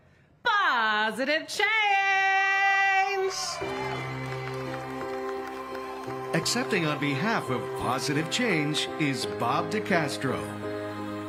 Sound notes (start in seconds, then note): 8.1 cheers and applause